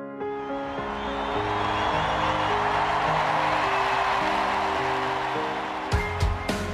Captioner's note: people cheering